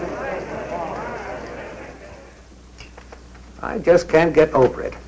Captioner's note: people chattering